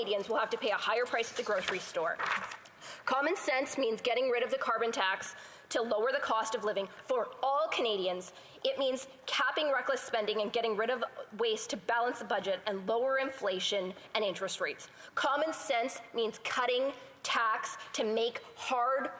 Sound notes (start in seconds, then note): none